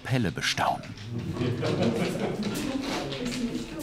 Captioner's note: laughter, babble of voices